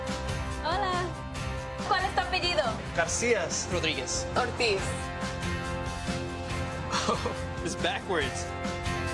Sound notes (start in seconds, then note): 1.1 speaking in foreign language